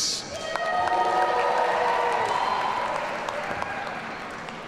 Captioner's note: audience cheering